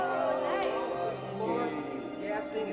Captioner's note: group chattering